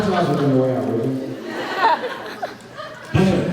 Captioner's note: laughs